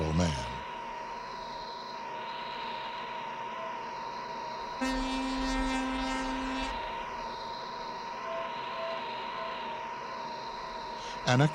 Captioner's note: fog Horn